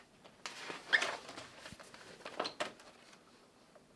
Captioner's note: paper rustling